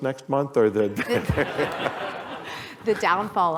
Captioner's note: laughter